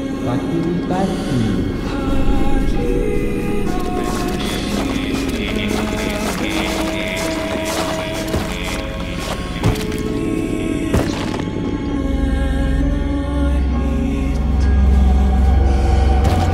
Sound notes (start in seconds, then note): 3.6 squishing; 9.2 thumping and crunching flesh